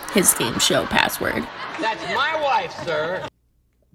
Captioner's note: Allen laugh